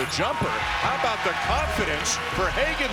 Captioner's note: crowd cheering